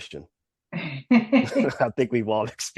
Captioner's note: laugh